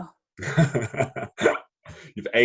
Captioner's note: laughs